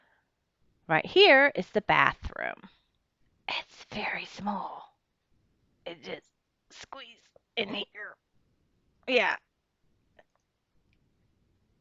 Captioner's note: whispers